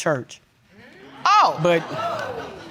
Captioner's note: audience exclaiming